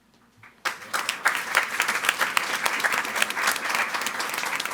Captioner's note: audience applauding